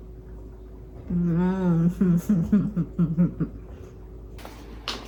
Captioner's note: soft chuckles